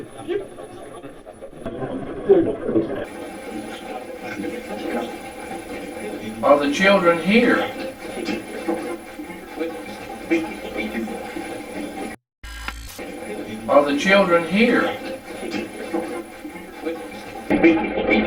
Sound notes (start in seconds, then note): 0.1 static playback transmitting; 3.7 static playback transmitting; 8.6 static playback transmitting; 12.8 static fizzing